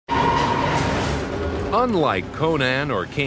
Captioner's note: subway car screeching